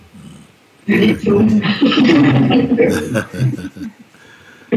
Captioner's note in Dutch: gelach